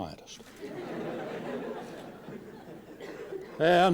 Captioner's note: laughter